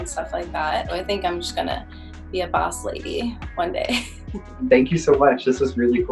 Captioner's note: laughs